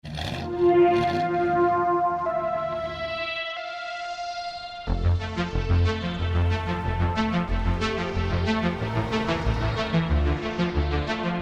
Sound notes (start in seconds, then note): 0.1 car engine revving; 4.8 techno music